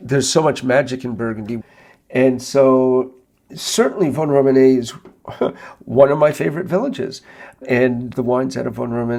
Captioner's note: chuckles